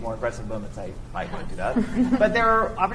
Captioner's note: chuckles